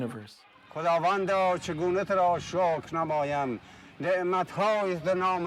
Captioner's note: speaking in Farsi